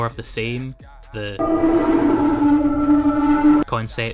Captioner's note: heavy distortion